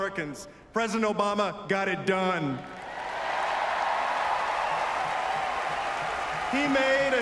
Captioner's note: applause